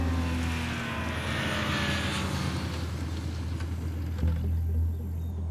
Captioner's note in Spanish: Ruido de la motocicleta